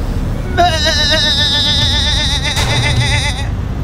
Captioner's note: goat calls